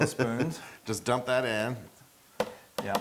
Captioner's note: laugh